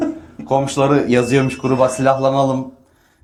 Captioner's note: laughs